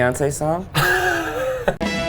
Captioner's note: laughing